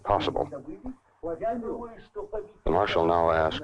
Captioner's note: group speaking in Russian